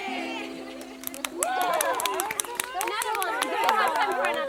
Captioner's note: guests cheering